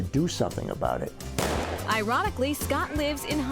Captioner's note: starting pistol firing